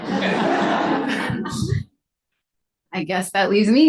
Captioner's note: audience laughs